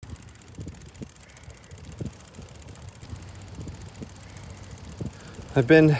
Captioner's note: wind blowing